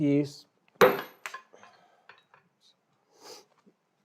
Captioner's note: metal clanks